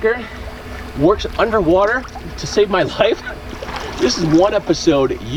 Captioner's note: laughs